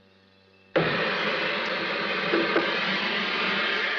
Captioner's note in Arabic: صوت موقد اللحام